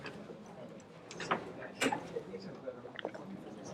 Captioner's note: chatter